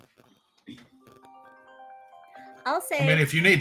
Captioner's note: phone ringing